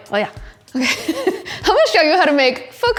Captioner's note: chuckles